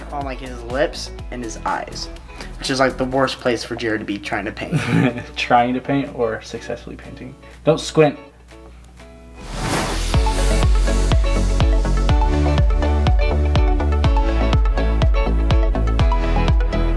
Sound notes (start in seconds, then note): 4.7 laughs; 9.4 upbeat music